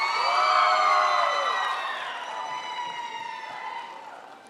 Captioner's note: crowd applauds